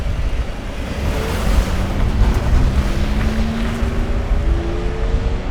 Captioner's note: car engine revving